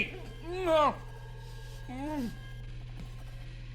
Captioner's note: groaning